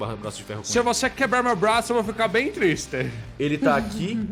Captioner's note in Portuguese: riso